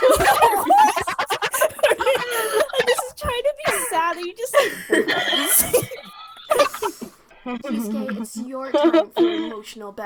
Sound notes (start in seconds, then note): 0.1 more laughy laughy; 6.3 more laughter